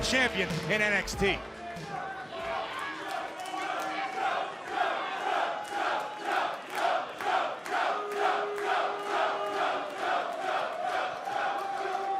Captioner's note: crowd cheering